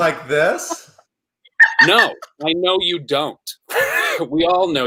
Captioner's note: laughing